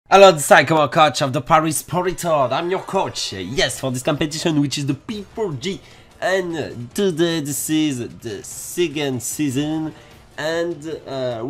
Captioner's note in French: awkward english accent